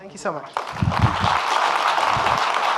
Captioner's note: audience clapping